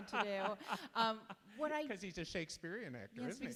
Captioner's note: laughs